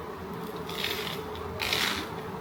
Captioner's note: Crunch